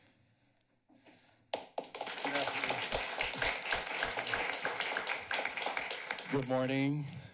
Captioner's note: applause